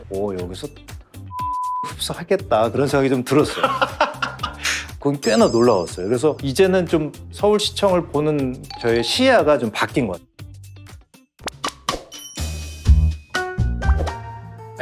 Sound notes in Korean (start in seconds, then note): 3.4 웃음; 12.1 유쾌한 음악; 13.1 잔잔한 음악